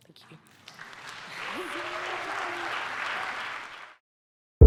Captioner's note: audience clapping